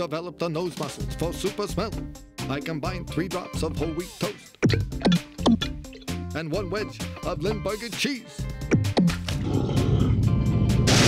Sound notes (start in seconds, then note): 5.0 plopping noises; 8.6 plop; 10.5 explosion